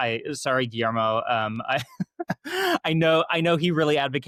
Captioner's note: chuckling